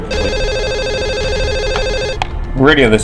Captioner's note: phone rings